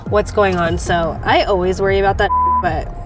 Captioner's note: beep